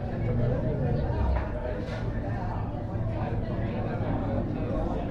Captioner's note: noise of people talking in a cafe